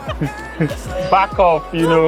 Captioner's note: laughing